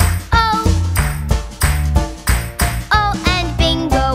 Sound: clap

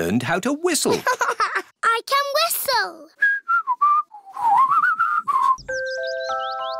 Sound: laughs; whistles

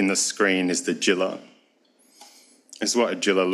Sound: speaks foreign language

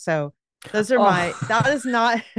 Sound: laughs

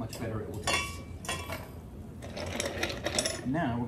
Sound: clanging

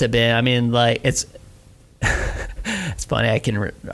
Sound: laughs

